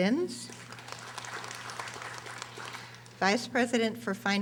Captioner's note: audience applauding